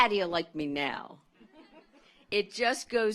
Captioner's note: audience laughs